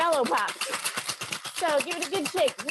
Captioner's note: bangs